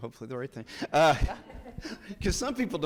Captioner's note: people laughing; judge chuckles